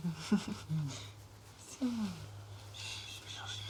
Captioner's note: chuckles; shushing